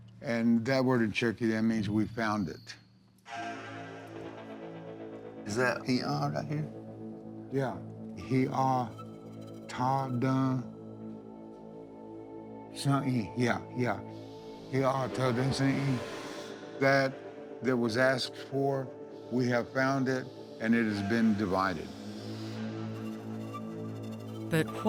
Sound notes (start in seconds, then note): 8.2 sounding out word